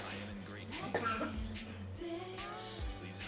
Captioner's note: drunk Coworkers Cough